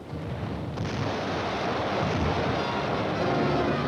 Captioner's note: explosions